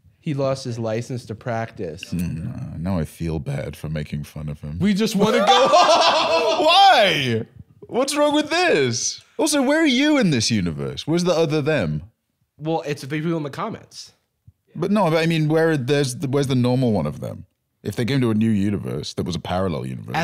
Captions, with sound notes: He lost his license to practice. (grumbling) Now I feel bad for making fun of him. - "We just want to go home." (laughing) - Why?! What's wrong with this?! Also, where are you in this universe? Where's the other "them"? Well, it's the people in the comments. But no, I mean, where's the normal one of them? If they came to a new universe, there was a parallel universe.